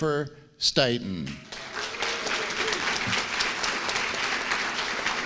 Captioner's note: applause